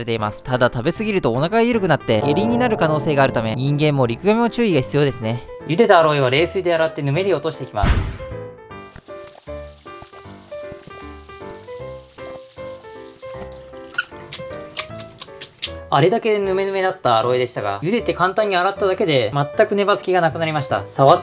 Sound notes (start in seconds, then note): 8.9 sound of washing boiled aloe with cold water